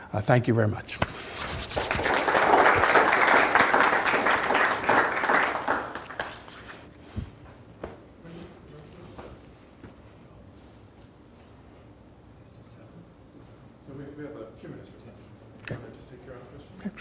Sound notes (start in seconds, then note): 1.8 audience applauding